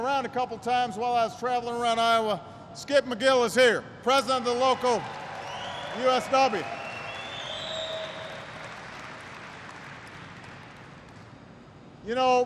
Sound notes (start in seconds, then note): 8.6 applause